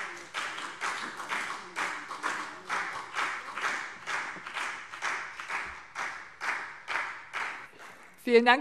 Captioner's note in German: Beifall BÜNDNIS 90/DIE GRÜNEN und CDU